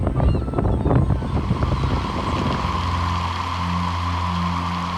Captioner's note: birds rushing